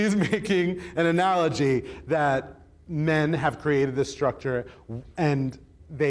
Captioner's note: chuckling